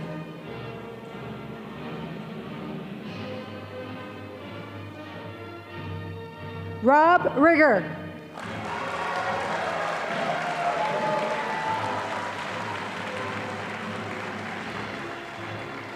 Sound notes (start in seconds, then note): 8.3 audience applauding